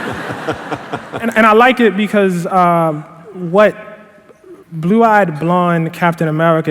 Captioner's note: laughter